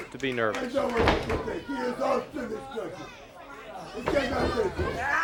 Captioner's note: crowd chatter